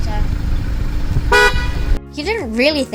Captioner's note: the horn beeps